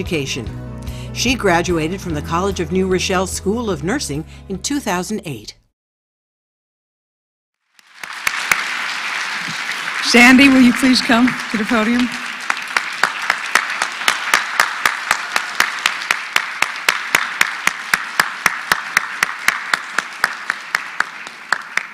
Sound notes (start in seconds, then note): 8.2 applause; 21.7 applause